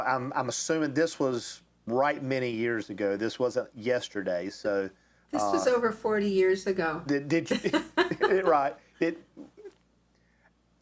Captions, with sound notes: I'm assuming this was right many years ago, this wasn't yesterday. - This was over 40 years ago. (laughs)